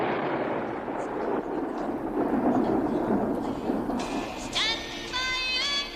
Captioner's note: gun firing